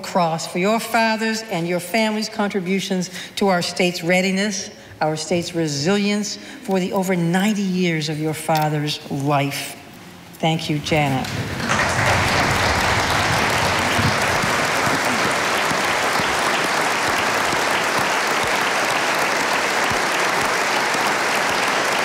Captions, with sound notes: for your father's and your family's contributions to our state's readiness, our state's resilience for the over ninety years of your father's life. Thank you Janet. (audience applauding)